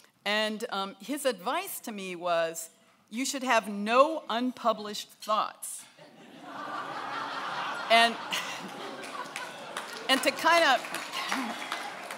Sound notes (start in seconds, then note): 6.0 laughing; 8.3 applause